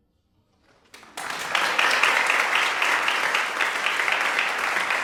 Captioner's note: audience applauds